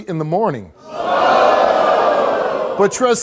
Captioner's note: audience hollers